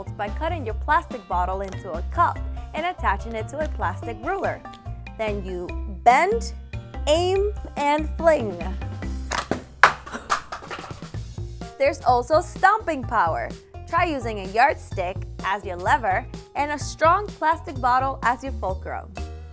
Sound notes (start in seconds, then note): 10.1 laughing